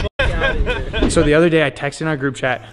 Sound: laughs

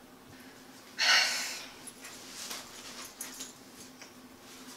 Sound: sighs heavily

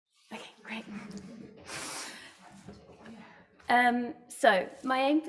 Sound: audience laughs

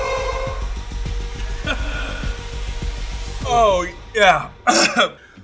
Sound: coughs

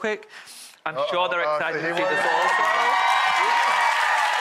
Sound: audience cheers

